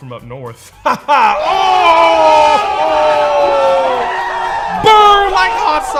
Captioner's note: sarcastic laugh